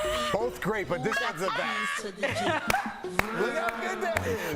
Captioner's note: laughter